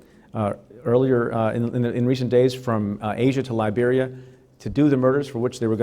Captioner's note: stutter